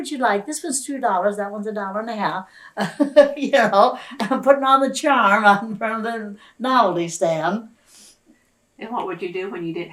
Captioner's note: laughs